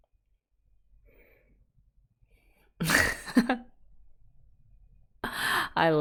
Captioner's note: laughs